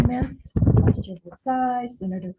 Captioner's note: microphone feedback drowns out speaker